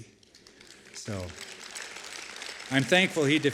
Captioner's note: applause